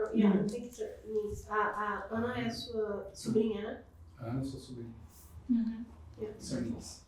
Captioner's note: speaking portuguese